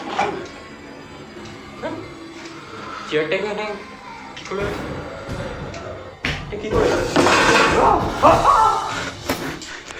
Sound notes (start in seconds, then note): 7.3 chair moves; 7.8 screams and falls